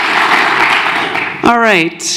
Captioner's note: applause